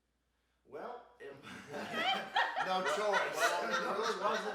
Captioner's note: group laughs